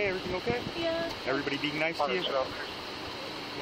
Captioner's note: radio chatter